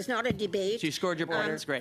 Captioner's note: mixed voices